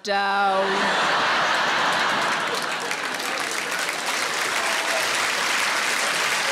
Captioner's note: audience laughing and applauding